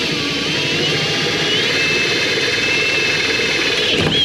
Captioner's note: drilling